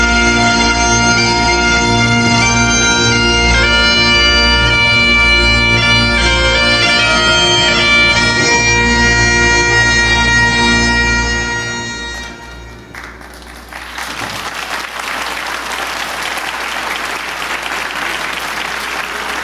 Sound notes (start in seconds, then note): 0.6 mournful bagpipes playing; 12.6 audience applauding